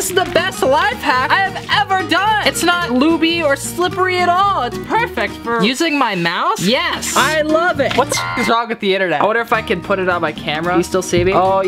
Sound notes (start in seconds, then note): 8.0 beep